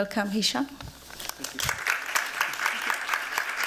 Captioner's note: applause